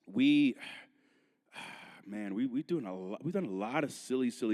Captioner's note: sighs